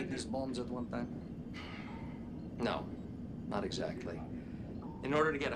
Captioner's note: sigh